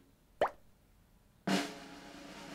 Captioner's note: water droplet drops; drum roll again